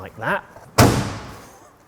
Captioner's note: slams